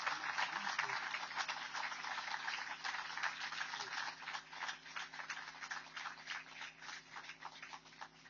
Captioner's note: applause